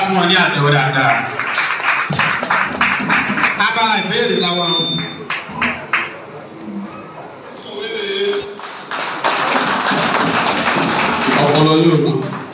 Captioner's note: a round of applause